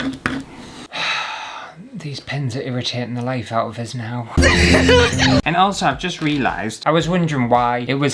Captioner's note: sigh